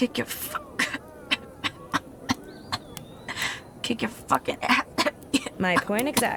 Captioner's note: hacking coughing fit